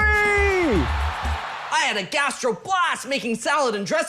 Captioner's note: crowd cheering